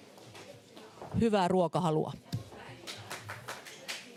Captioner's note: applause